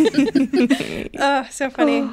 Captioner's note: both laughing